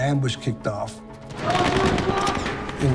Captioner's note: gunfire, shouting